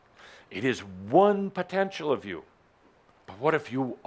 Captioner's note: none